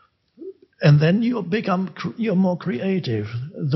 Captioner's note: none